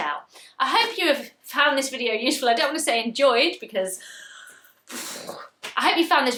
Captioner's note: exhales